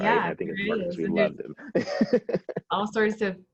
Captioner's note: laughs